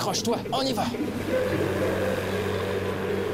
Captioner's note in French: corne de brume